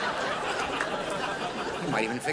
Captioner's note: crowd laughs